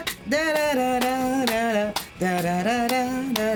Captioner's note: humming